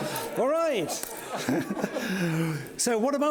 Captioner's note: laughing; laughs